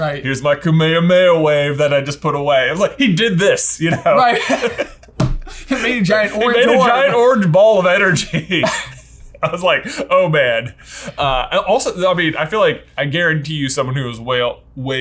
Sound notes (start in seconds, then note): 3.7 laughs; 3.8 chuckles; 8.1 chuckleS; 8.5 laughs